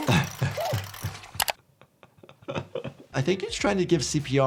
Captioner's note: Pop groans; doctor laughs